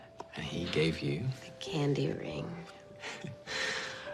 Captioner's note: chuckles